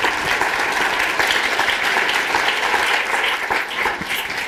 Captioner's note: applause